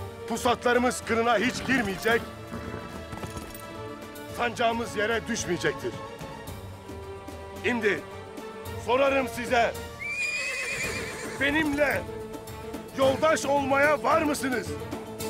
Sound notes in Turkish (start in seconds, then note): 9.9 At kişneme sesi